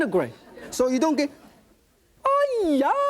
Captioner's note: shrieks in foreign language